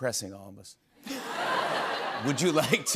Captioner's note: laughter